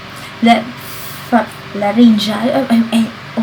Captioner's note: stuttering